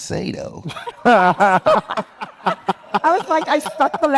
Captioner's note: group laughing